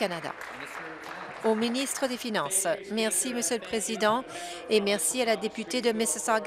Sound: applause

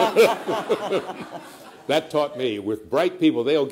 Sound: laughter

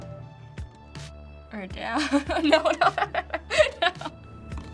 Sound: laughs

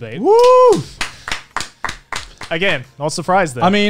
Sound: clapping

